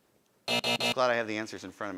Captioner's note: buzzing